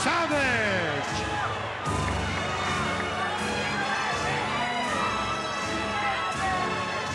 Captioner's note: crowd boos